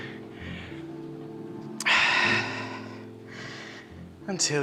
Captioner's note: heavy breathing and sighs